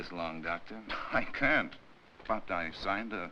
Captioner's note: scoffs